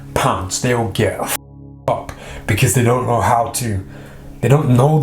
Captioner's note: swearing